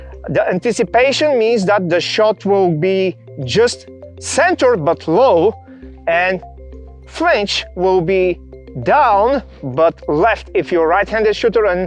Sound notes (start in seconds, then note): none